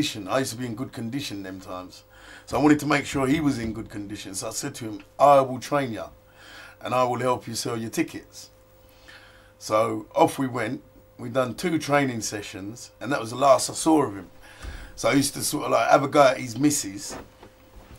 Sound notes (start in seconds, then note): none